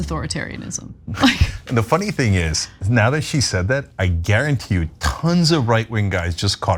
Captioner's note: laugh